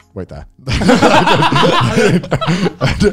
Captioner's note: laughing